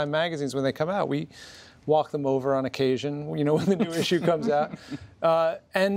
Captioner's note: laughter